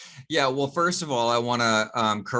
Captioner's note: chuckling